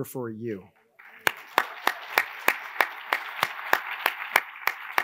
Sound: attendees applauding

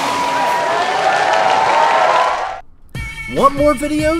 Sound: applause

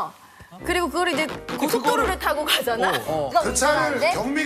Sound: scratching

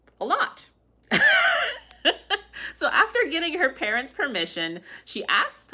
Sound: laughter

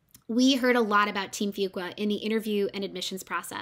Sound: none

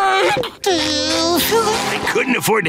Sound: whimpering

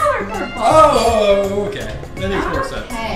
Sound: voiceover

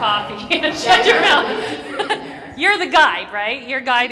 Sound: laugh

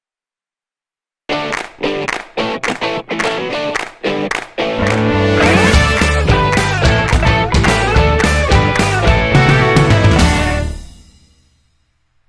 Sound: claps

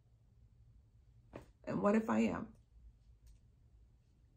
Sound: hands thudding

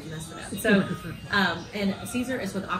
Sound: laughter

